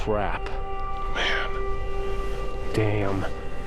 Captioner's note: whispers